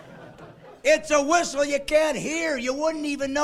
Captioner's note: laughing